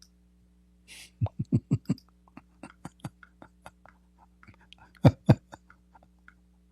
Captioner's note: Ketawa